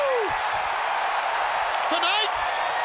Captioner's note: crowd cheering